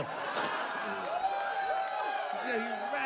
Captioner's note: aplausos